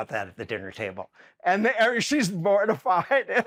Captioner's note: laughs